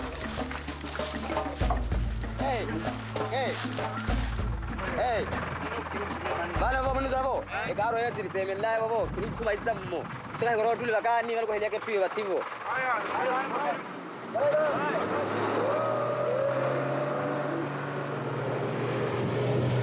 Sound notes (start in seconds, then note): 6.3 Portuguese spoken audio